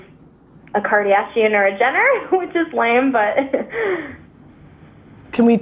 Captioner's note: laughing